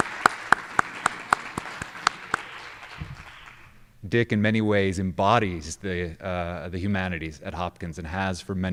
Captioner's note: applause